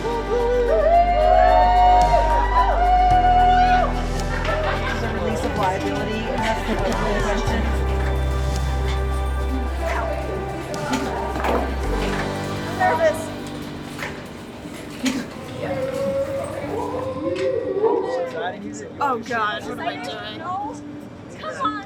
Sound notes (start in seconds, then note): 0.0 uplifting music; 0.2 whooping; 8.8 chattering; 10.0 people chattering; 15.8 person whooping; 18.8 chattering